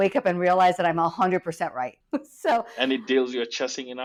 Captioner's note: laughs